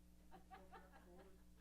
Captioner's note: laughs